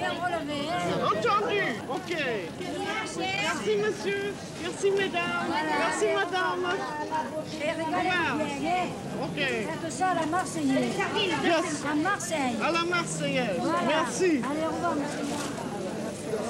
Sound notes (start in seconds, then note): 9.8 conversing in French